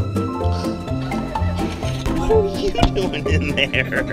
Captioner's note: gasps